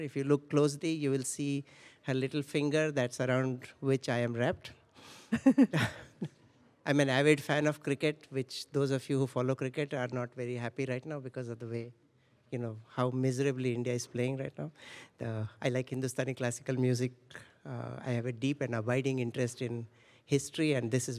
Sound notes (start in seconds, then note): 5.3 laughter